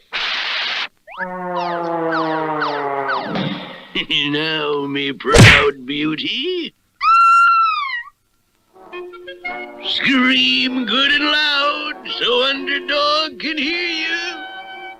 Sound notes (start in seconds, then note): 7.0 Sweet Polly Purebred Screams